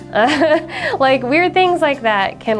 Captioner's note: laughs